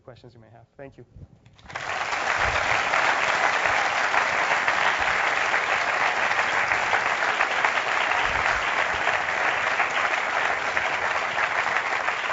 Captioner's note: applause